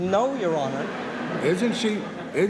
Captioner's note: laughter